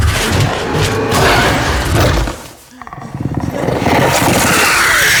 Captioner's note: alien roaring